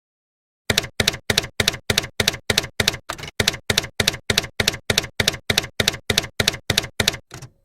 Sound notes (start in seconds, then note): 0.7 typewriter keys clacking